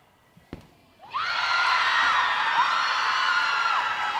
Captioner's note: crowd cheering